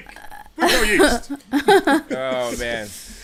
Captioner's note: laughing